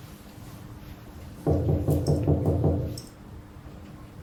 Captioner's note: knocking sound